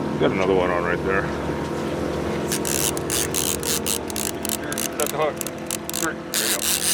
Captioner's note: reel cranking